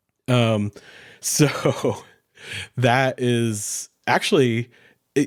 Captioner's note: chuckles